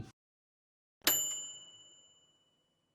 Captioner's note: bright bell dinging